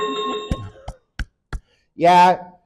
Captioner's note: chiming sound effect; clapping